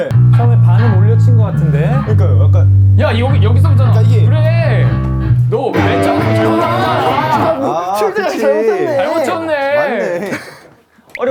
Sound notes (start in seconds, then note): 5.5 frustrated